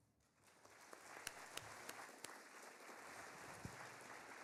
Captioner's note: audience applauding